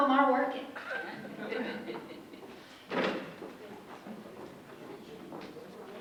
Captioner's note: audience members chuckle